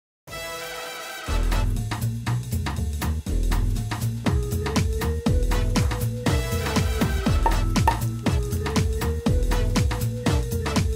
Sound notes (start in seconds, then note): 1.3 upbeat jazzy music; 7.8 corks popping